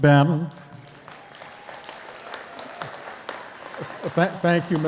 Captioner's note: attendees cheering and clapping